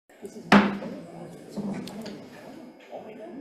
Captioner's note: gavel bangs